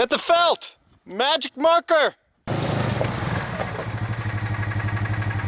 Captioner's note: engine revving